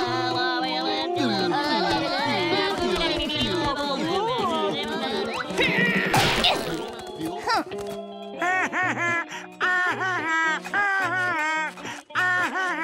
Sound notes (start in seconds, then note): 5.2 grunting; 8.3 laughing